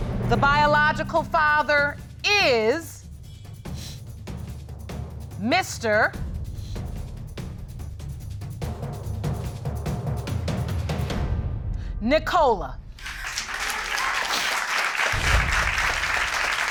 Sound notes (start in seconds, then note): 12.9 audience clapping